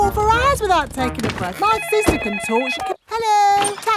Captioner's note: cellphone ringing